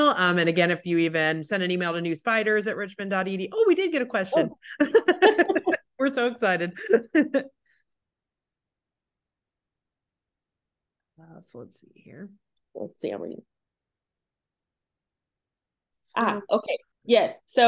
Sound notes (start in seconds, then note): 4.3 laughs